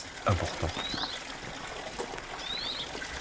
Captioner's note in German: Vogelzwitschern